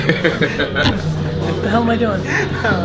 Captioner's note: group laughter